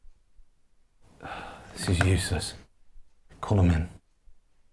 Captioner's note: sighs